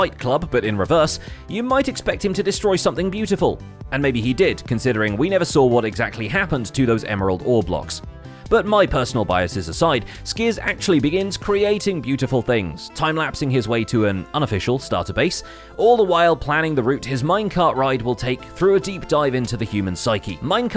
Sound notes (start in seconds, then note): none